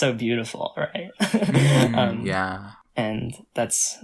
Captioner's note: laughs